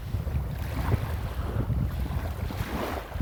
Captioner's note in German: Klang der Wellen